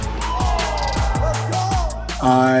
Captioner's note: crowd cheering